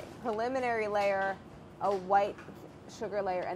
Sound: none

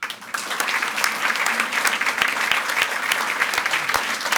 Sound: audience applauds

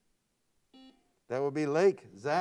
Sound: buzzer sounds

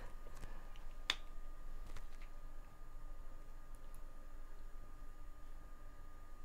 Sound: fan whirs; tube opens

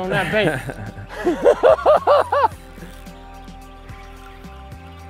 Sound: both laughing

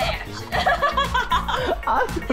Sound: laughing

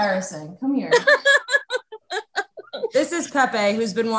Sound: laughs

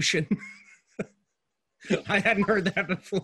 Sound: laughing

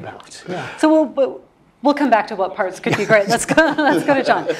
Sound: laugh

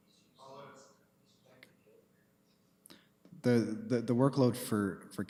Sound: speaking off mic

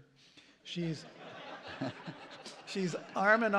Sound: laughter

